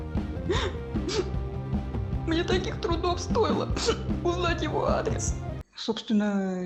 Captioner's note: sobbing